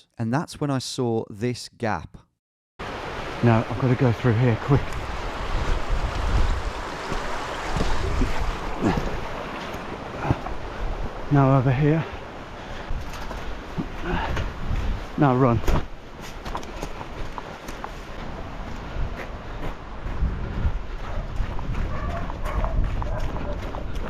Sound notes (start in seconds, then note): 5.9 water rushing; 8.7 grunts; 13.0 grunts; 18.9 dogs barking; 18.9 feet stepping